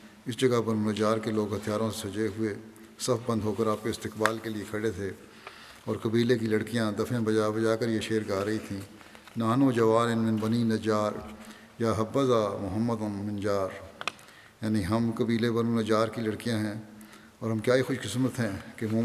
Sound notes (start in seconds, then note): 9.3 Arabic